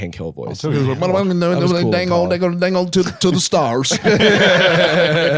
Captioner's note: imitating Boomhauer; all laughing